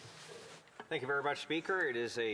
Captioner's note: speaking French